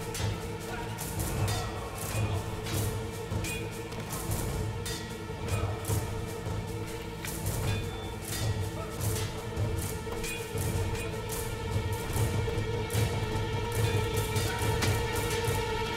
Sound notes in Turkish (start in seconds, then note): 0.0 Müzik - Gerilim; 6.4 Kılıç sesleri